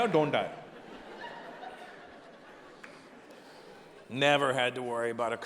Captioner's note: audience laughing